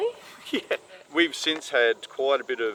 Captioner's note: laughing